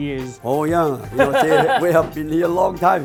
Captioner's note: laughing